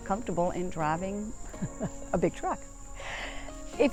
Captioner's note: laughs